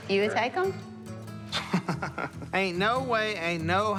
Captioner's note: laughs